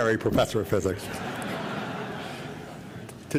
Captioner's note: laughter